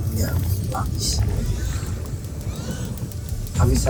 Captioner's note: squeaks & squawks